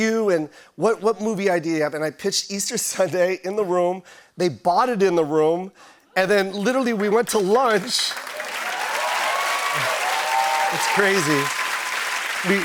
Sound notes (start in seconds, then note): 7.4 cheers and applause